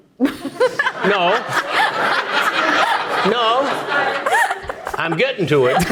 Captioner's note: audience laughing